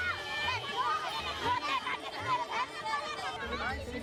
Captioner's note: chattering